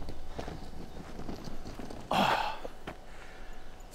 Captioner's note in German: stöhnen